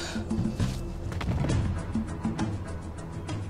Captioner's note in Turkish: Düşme sesi